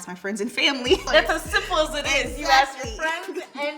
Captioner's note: women laugh